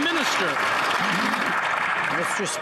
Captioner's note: some Applause